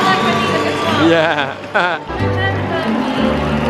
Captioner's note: laughs